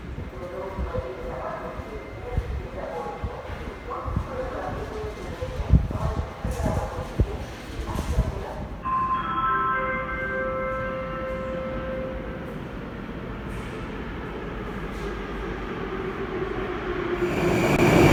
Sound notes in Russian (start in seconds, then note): 8.8 сигнал о прибытии поезда; 12.9 прибытие поезда на станцию; 17.9 прибытие другого поезда на станцию